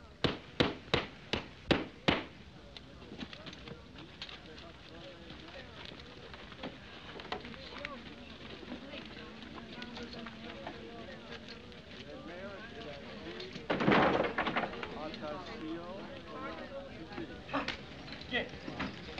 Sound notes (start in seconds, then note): 4.6 chattering; 15.0 chattering Continues